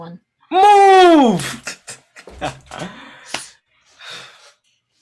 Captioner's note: laughing